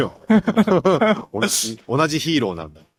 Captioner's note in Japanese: 笑い